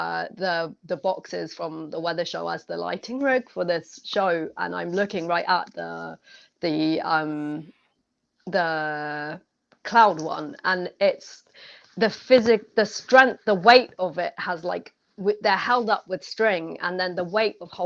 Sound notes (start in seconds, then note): none